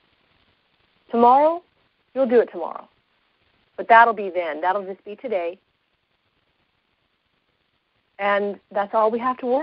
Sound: long pause

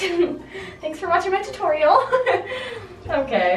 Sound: laughs; laughs

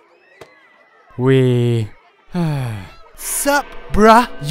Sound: sigh

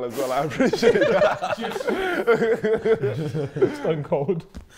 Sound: group laughing

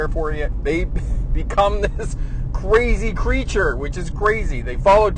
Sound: chuckles

